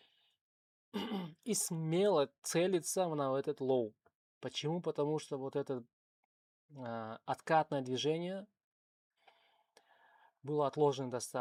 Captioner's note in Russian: откашливается